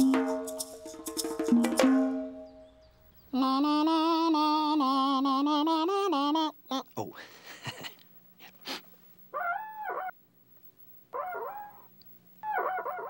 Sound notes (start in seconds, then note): 2.0 imitating snake charmer; 8.8 imitating squeaking on window